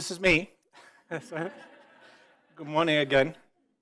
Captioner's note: audience laughing